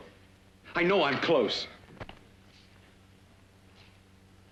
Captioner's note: door opens